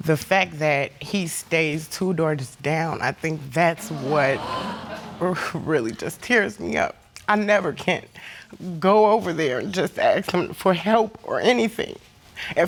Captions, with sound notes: The fact that he stays two doors down, I think that's what really just tears me up. (AUDIENCE EXCLAIMING) I never can go over there and just ask him for help or anything.